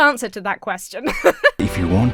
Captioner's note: Emma laughs